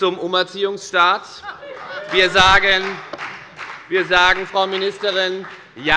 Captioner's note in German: Beifall bei der FDP - Heiterkeit bei dem BÜNDNIS 90/DIE GRÜNEN